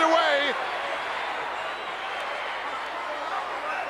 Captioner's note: crowd yelling